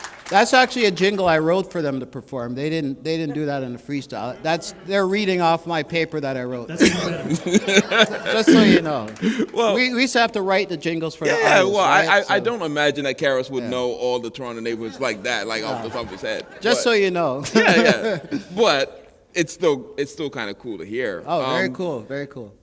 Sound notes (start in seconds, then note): 6.6 laughter; 17.4 laughter